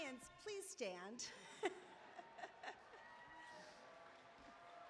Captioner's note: laughter